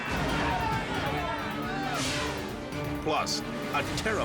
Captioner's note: air whooshes